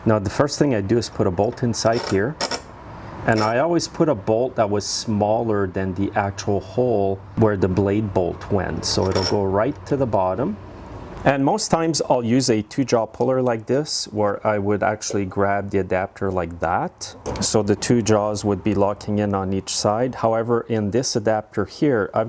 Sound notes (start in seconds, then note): none